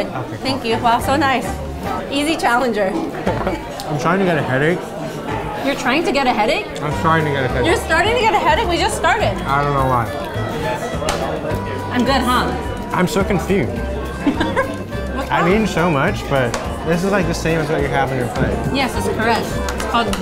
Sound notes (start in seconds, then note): 13.9 laughs